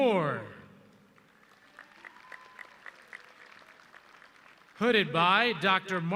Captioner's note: audience clapping